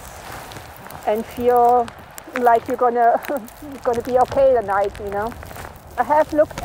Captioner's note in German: lacht